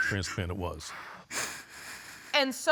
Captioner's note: sobbing